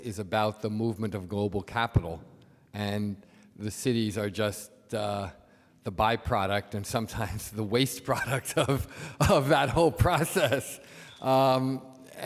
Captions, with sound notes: is about the movement of global capital and the cities are just the byproduct and sometimes the waste product (laughs) of that whole process.